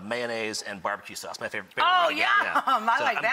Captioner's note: laughs